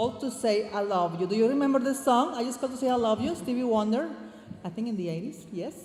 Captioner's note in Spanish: hablando en inglés